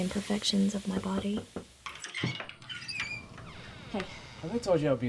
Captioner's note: door knocking